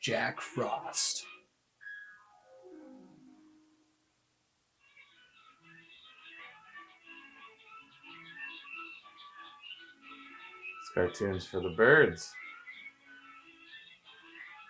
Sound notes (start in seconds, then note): 4.9 whimsical music; 5.9 birds whistle